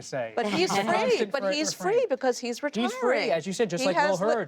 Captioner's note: laughs